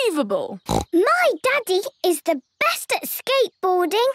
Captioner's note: snorts